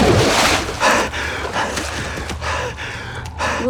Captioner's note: heavy Breathing